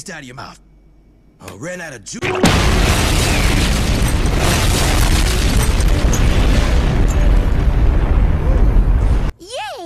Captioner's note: 2nd Explosion